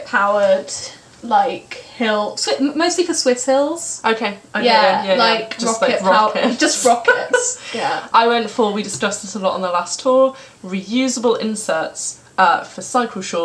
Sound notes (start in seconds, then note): 6.4 laughter